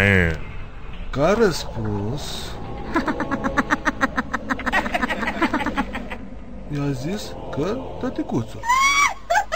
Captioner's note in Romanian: începând să râdă